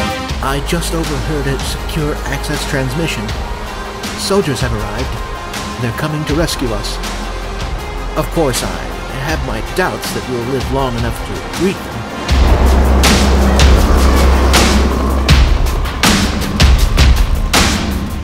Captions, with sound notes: I just overheard a secure access transmission... Soldiers have arrived! They're coming to rescue us... Of course, I... ...have my doubts that we will live long enough to greet them... *helicopter overhead*